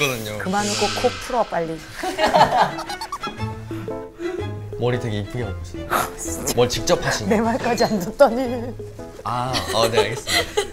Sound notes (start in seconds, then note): 2.3 haha